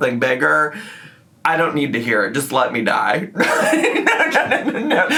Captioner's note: laughs